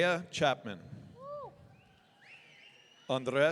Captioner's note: audience cheering